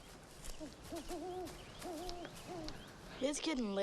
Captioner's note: owl hooting